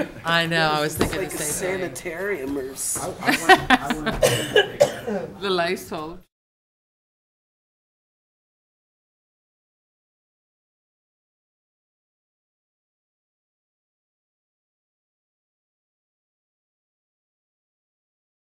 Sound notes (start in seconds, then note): 3.3 coughing